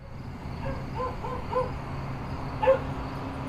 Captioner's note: dog barking